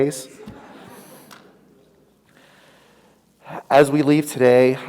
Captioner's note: audience laughs